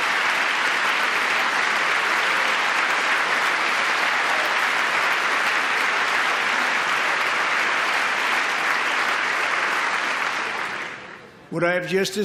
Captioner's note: applause